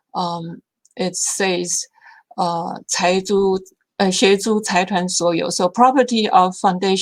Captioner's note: speaking Chinese